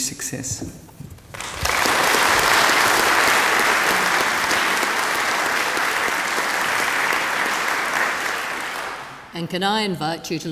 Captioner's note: applause